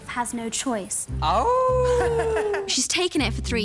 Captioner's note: howls